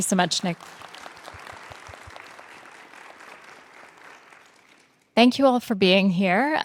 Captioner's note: participants applauding